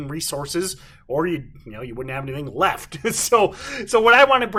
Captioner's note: chuckles